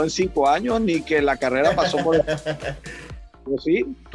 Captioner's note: laugh